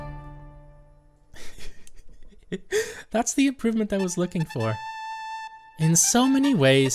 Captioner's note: chuckling